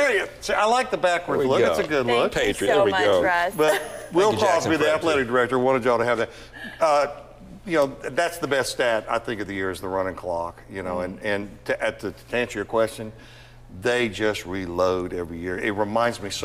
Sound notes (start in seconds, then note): 3.6 laughter